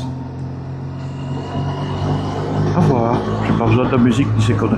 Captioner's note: engine